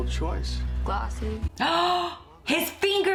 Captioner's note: gasps